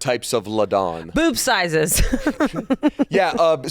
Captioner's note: laughs